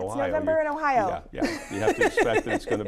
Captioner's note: laughs